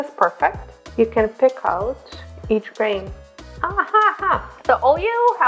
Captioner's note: laughs